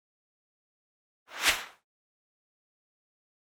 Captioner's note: whoosh